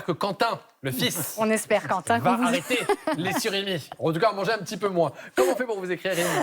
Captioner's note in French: rires